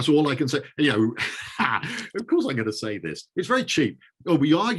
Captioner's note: chuckles